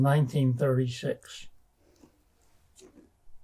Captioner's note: pauses 10 seconds